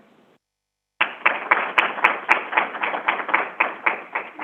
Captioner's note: crowd applauding